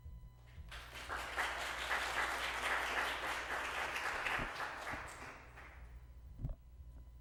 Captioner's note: applause